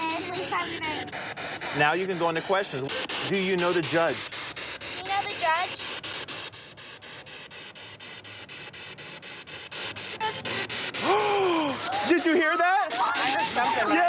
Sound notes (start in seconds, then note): 7.6 static